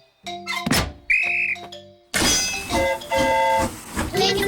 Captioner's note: blows whistle; train horn toots